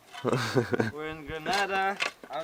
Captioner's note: goofy Laughter